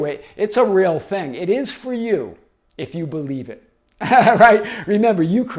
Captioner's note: laughing